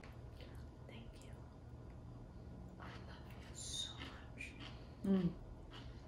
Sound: whispers

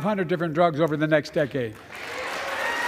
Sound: applause

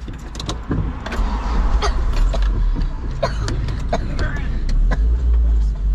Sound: van engine starts up

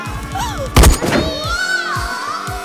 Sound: gunshot

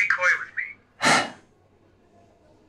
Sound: sighs

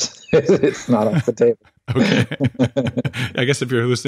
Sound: laughing

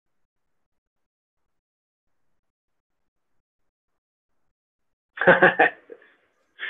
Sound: laughs

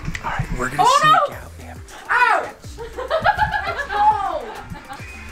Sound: murmurs

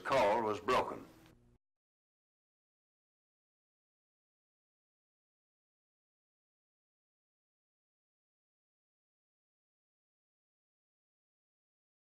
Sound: silent

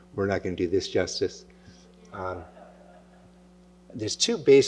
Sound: laughter

